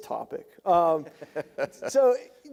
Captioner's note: laughing